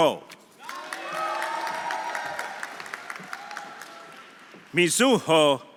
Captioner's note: audience cheering; audience applauding